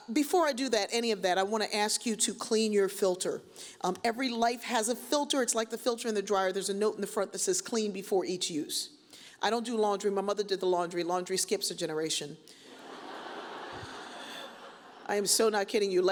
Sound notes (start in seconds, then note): 12.7 audience chuckles; 13.9 sighs